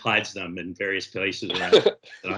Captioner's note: laughs